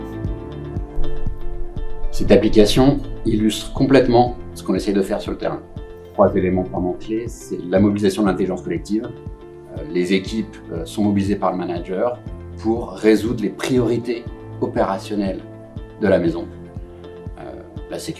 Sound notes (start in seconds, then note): 6.6 speaking French